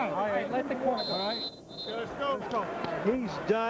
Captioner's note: whistle blowing